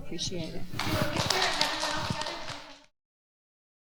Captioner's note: applause